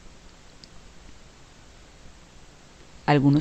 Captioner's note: no audio